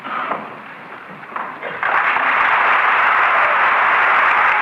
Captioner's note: applause